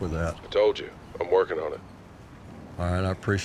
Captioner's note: on phone